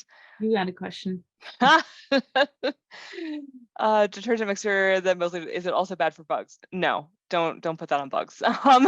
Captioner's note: laughter